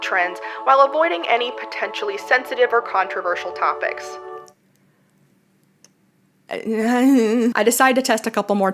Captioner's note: ’I don‘t know’ noise